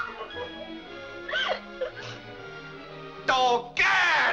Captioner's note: Mary cries out; Mary sobs